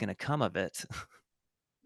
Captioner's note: chuckle